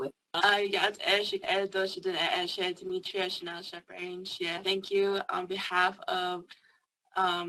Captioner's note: speaking indigenous language